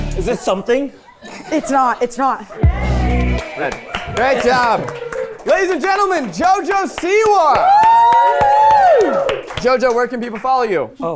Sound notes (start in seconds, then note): 2.7 light music; 7.4 everyone cheering